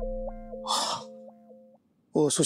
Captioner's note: exhaling sharply